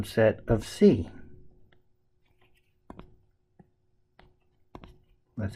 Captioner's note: tapping Sounds